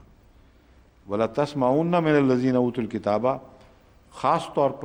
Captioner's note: Arabic